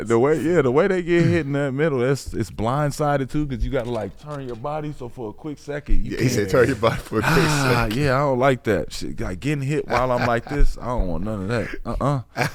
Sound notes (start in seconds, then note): 7.1 sighs